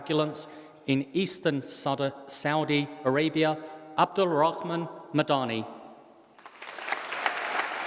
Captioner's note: applause